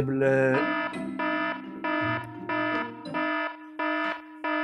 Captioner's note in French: alarme